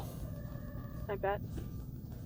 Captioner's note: over coms